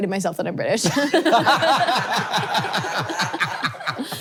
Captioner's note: all laughing